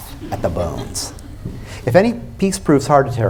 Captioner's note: laughter